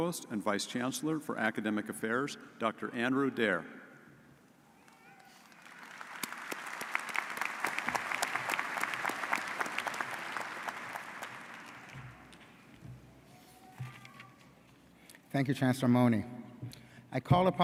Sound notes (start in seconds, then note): 5.2 audience applauds